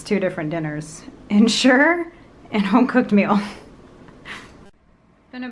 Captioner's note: chuckles